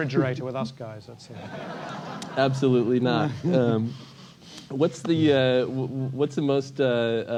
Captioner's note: laugh